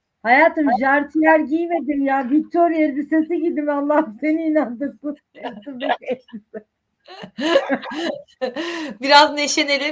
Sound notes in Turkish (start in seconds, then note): 7.1 kahkaha